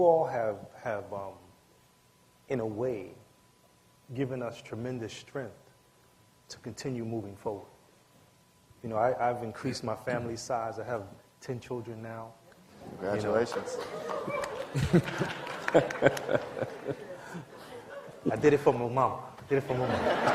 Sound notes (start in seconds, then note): 13.4 applause; 16.8 laughter; 19.7 laughter